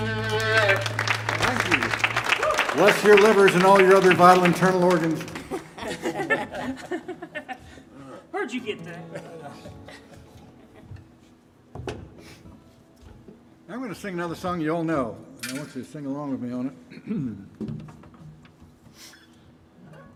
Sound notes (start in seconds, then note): 0.0 audience applauding; 5.6 band laughing; 9.0 chuckling